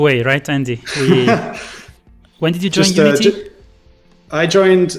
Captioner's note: laughs